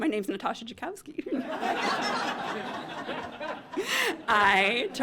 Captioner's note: laughter